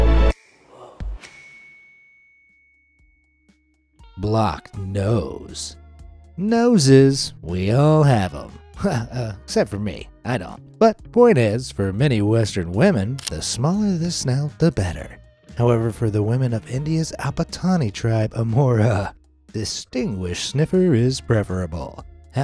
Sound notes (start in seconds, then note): 1.1 bell dings